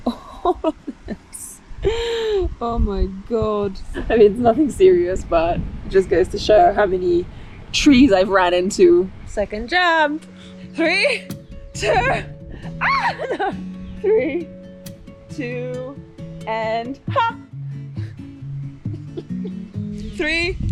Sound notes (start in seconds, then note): 1.1 laughs; 12.6 shrieks; 18.8 laughs